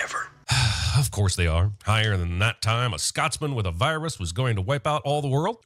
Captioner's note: sigh